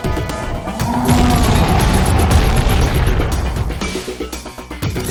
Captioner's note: creature roaring